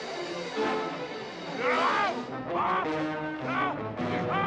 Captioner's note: screaming